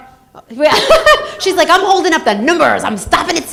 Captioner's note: laughs